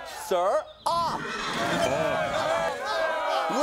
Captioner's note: crowd cheering